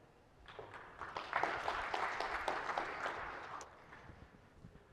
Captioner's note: applause